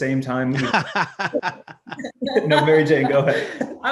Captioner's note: laughing